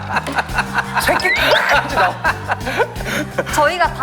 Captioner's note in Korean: 깔깔